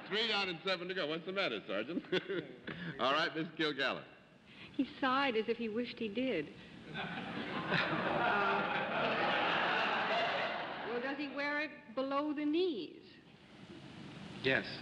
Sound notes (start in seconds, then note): 6.8 audience laughing